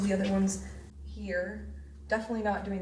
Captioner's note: disembodied Voice